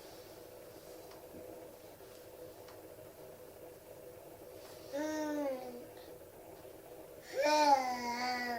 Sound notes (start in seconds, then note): 5.4 baby cooing